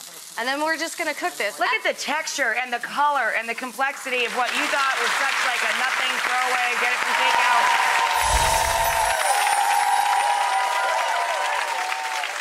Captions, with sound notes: And then we're just gonna cook this. Look at the texture and the color and the complexity of what you thought was such like a nothing throw away, get it from take out. (audience clapping)